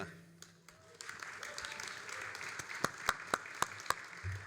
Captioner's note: all applauding